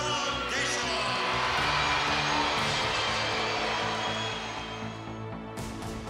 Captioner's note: cheers and applause